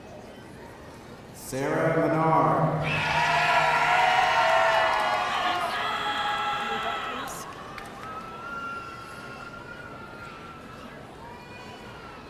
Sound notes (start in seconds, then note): 2.8 audience cheering